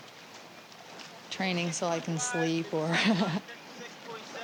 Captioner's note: laughs